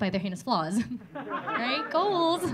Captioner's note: audience laughing